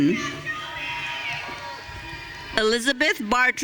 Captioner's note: audience cheering